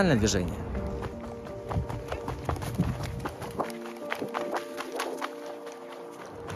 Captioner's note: sound of running over stones and damp ground